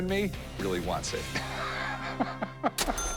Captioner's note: laughs